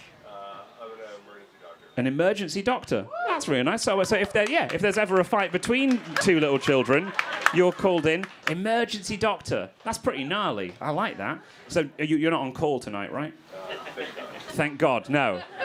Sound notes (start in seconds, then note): 3.0 crowd cheering